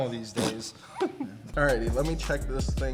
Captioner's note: fart noise